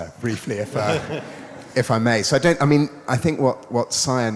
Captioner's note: audience laughs